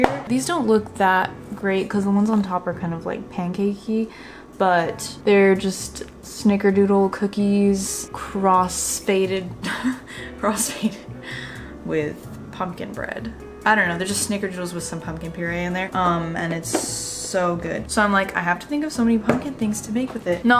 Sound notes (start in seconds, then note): 9.6 laughs